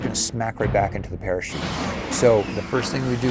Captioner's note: music- big pounding drums; engines blast